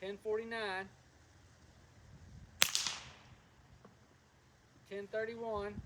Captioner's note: gunshot